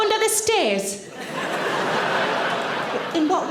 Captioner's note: audience laughing